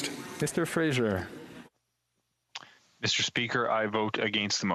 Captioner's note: speaking French